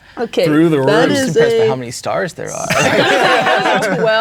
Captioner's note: players laughing